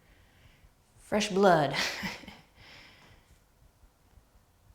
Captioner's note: laughs